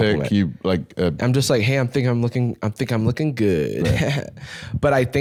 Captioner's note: fuckboy laughter